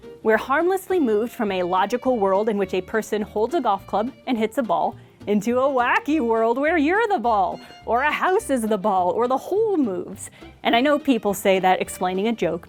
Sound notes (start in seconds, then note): none